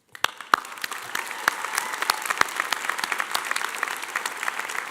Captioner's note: audience applauding